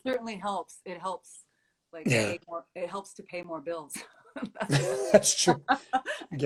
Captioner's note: laughs